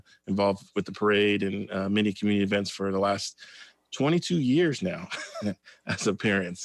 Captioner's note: laughs